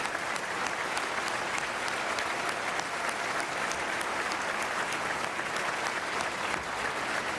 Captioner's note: applause